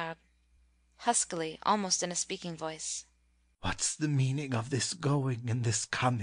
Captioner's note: _huskily, almost in a speaking voice_